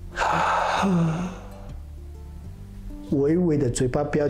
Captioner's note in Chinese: 吸氣